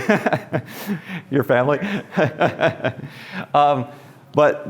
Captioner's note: laughs; laughs